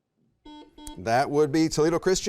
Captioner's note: button beeping